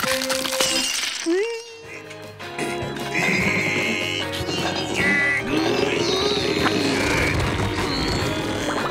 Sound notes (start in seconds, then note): 2.5 grunting